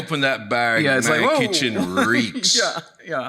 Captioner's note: laughs